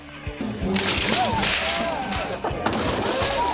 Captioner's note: ironing boards crash down